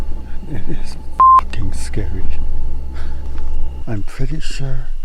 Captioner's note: eerie music; beep